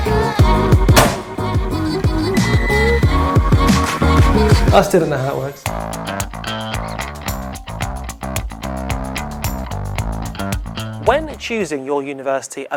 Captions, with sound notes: (upbeat music) (washing machine beeping) I still don't know how it works. (upbeat music) When choosing your university,